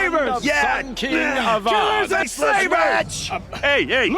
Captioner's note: crowd